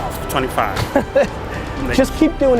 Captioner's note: Gary laughs